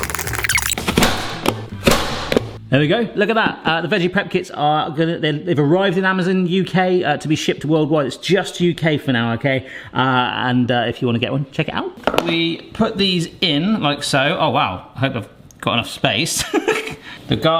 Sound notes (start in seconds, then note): 0.0 cassette tape squealing; 1.1 chopper slamming; 16.7 laughs